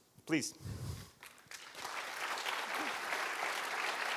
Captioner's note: applause